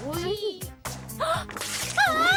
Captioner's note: gasp